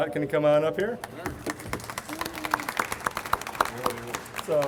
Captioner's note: audience applauds